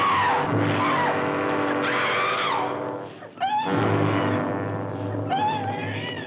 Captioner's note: screaming